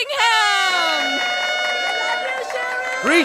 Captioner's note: crowd clapping